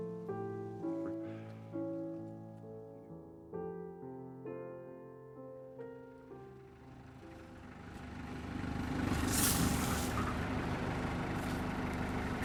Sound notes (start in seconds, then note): 6.5 jeep engine humming; 9.1 brush rustling